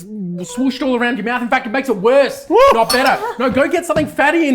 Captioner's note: screams in chili